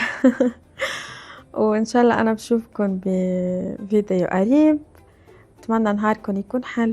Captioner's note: laughter